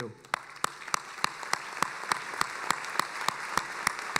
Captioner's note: applauding